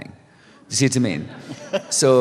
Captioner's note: laughter